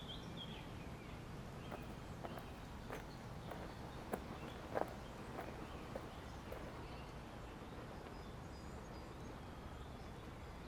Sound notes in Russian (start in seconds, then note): 1.7 кроки